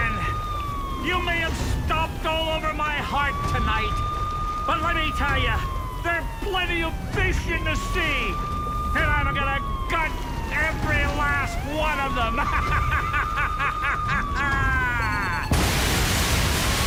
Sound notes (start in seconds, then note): 12.2 cackles; 14.0 countdown beeping, explosion